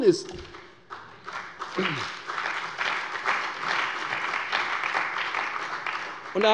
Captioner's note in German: Beifall bei der CDU und dem BÜNDNIS 90/DIE GRÜNEN